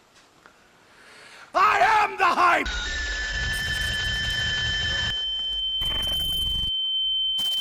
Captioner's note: Sonic Scream